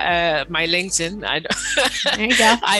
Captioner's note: upbeat music; laughs